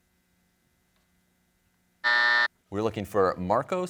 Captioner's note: buzzer sounds